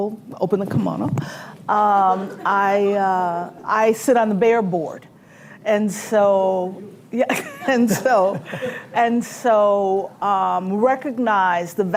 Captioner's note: laughter